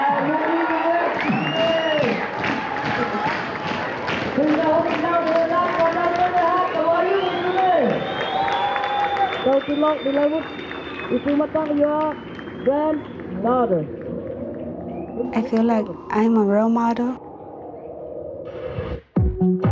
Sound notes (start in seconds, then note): 4.5 applause